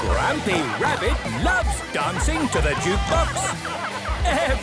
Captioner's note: shouting